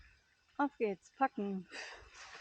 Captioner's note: puff!